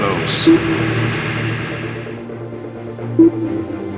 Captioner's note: slow pinging